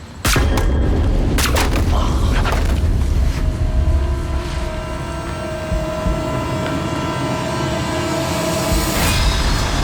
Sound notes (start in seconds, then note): 3.1 gunshots whooshing; 5.1 dramatic music